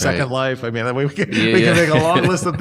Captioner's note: laughter